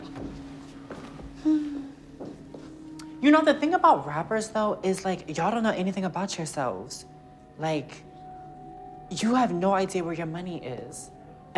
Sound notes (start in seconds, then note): 1.3 sighs